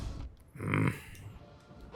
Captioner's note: growl